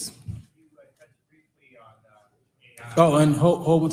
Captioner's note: audience speaking indistinctly